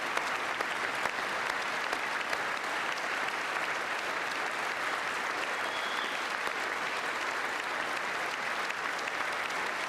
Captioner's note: applause